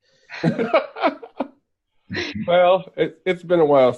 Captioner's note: laughing